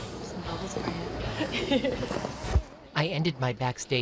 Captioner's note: laughing